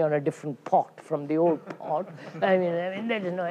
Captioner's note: laughter